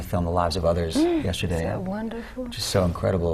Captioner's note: gasp